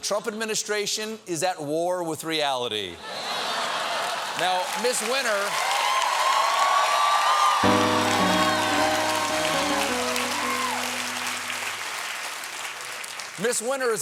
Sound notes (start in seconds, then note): 5.1 applause; 5.1 cheers and applause